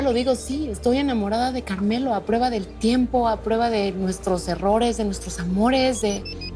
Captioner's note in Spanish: Suena el celular